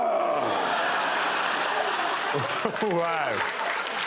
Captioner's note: groaning